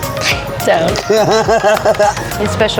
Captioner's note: laughs